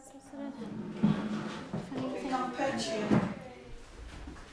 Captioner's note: sound of people entering a room, chatting